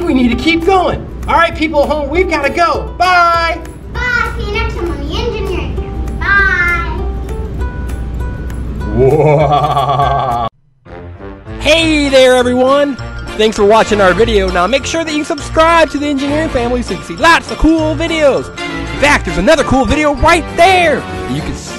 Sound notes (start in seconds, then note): 8.8 spooky sounds